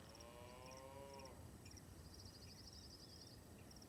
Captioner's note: cows lowing